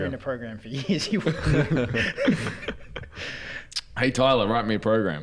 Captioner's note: giggles